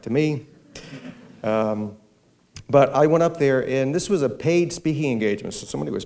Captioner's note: muffled laughter